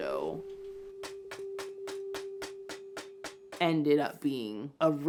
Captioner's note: mallet hammers